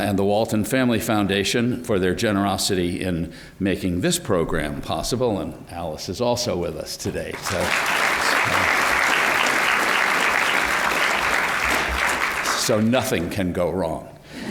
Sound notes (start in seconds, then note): 7.3 applause